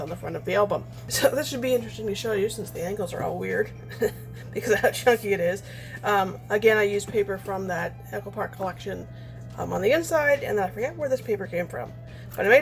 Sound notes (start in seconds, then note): 3.8 laughs